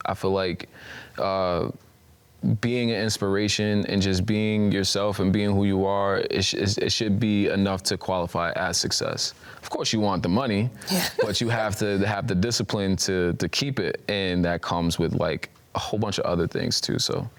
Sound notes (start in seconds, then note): 10.9 laughing